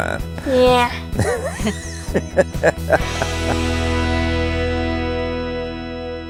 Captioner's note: laughing